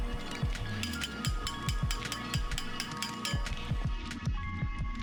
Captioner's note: metal hammering